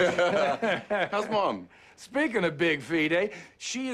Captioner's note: laughs